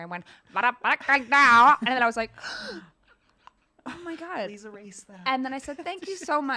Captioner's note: gasp